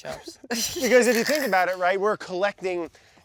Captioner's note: chuckling